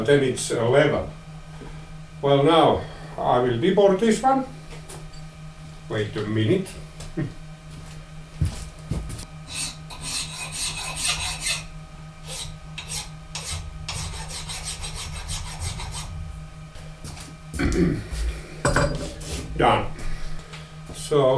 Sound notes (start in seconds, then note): 9.4 filing sounds